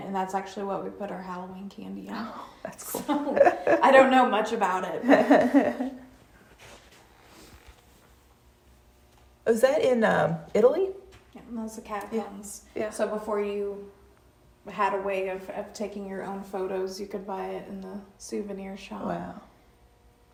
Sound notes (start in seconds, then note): 2.8 chuckles; 5.0 chuckling